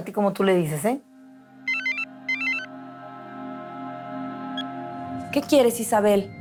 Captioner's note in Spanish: Suena un celular